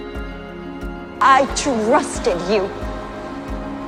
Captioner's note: voiceover